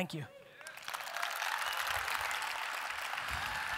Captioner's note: audience applause